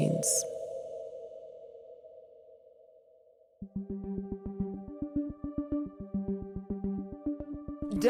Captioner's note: soundbite of archived recording